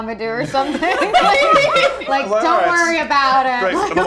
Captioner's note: laughing